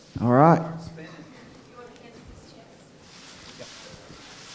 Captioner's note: indistinct chatter